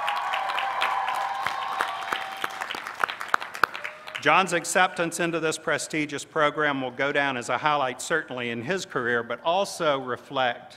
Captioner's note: cheers